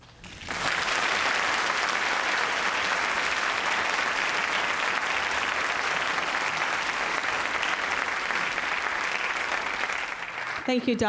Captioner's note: audience clapping